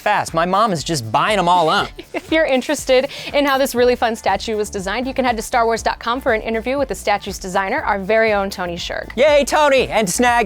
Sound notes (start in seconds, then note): 1.8 laughing